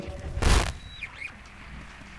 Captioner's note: static